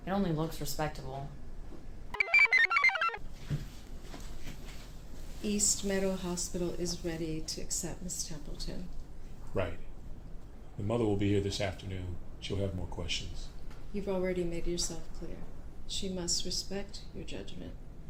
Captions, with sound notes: It only looks respectable. (computer chirps) - East Meadow Hospital is ready to accept Ms. Templeton. - Right, the mother will be here this afternoon. She'll have more questions. - You've already made yourself clear. She must respect your judgment.